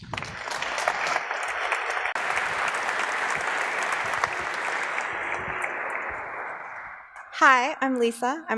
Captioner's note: applause